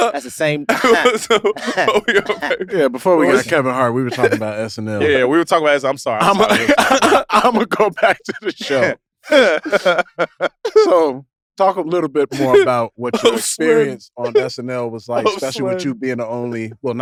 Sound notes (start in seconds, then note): 0.7 chuckles; 9.2 chuckles; 9.2 Jay laughs